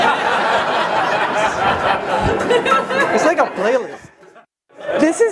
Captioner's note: hip hop music; audience laughs